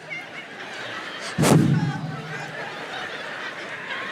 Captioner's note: audience laughs